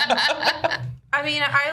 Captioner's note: the group laughs